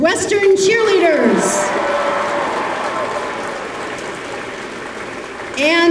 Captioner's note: applause